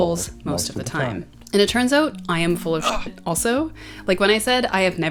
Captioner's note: grunt